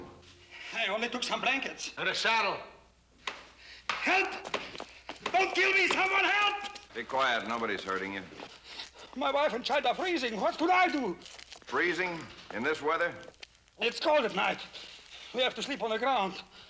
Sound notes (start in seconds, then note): none